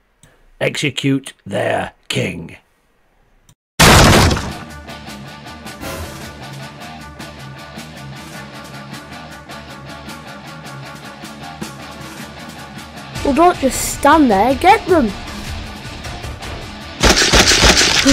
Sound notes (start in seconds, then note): 3.8 door Break; 4.3 battle Music; 17.0 head Slice SFX